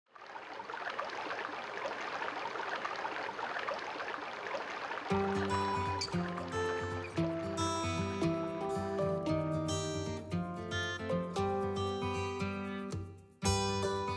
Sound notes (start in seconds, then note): 0.1 water flowing; 5.5 upbeat music